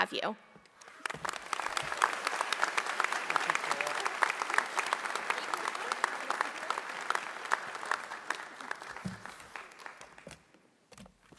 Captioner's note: applause